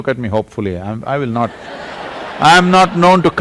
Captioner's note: laughter